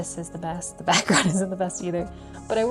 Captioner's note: laughs